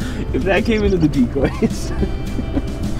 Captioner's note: laughs